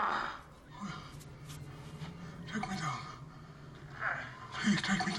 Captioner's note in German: Grunzen; Keuchen